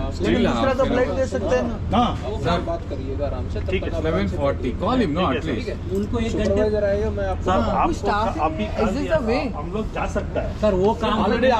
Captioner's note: chatter continues